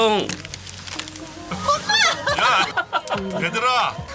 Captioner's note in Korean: 비명소리